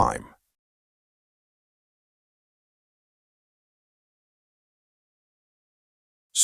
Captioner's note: silence